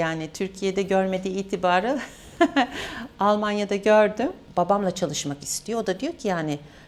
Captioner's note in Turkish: kahkaha